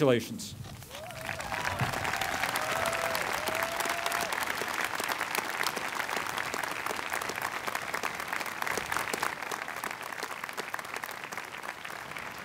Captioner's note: applause